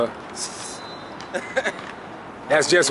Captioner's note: laughs